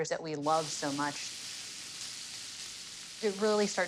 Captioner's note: sizzling